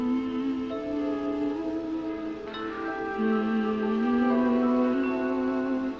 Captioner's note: humming